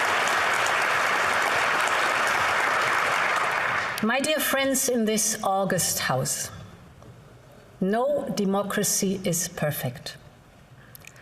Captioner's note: applause